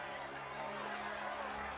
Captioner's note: cheeringnd a applause